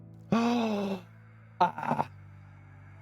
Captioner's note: gasp